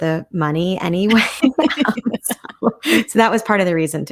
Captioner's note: both laughing